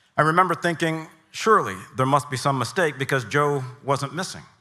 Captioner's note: none